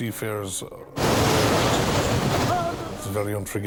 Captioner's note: waves roar